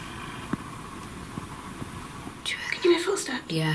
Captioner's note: quiet thudding